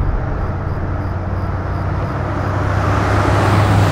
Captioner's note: crickets chirping